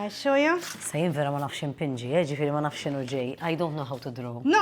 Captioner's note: in Maltese